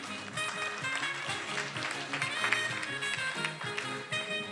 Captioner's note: attendees applauding